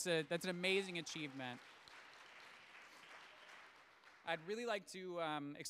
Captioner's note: audience applauds